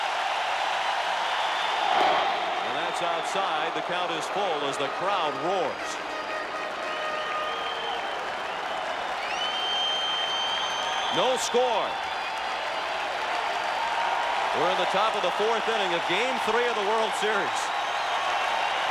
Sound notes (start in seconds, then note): 9.6 cheering and Applause; 17.2 applause